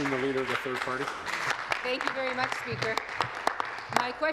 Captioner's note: applause